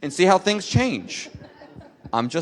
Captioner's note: laughter